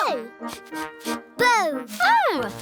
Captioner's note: sniffing